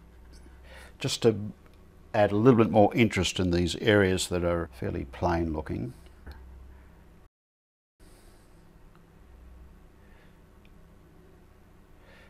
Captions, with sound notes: Just to add a little bit more interest in these areas that are fairly plain looking. [silence]